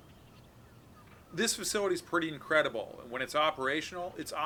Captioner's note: birds chirping